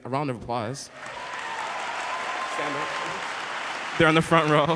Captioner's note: applauding